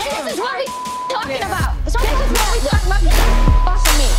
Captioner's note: beep; beep